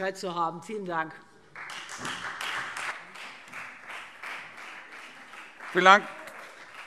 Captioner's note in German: Beifall Freie Demokraten